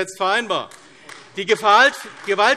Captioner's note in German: Beifall AfD